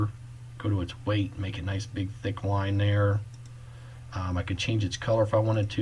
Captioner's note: click